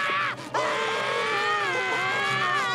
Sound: screaming

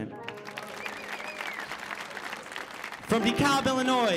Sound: audience applauding

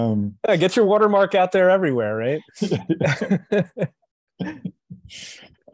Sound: laughter

